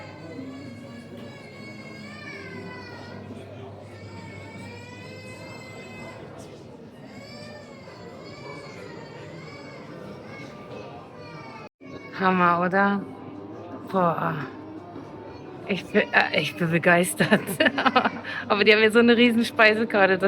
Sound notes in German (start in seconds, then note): 0.0 weinen; 17.2 gelächter